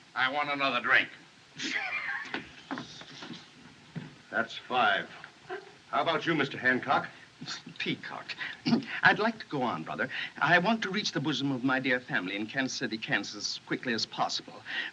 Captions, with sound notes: I want another drink. [Laughing] That's five. How about you, Mr. Hancock? It's Peacock. [Clears Throat] I'd like to go on, brother. I want to reach the bosom of my dear family in Kansas City, Kansas, as quickly as possible...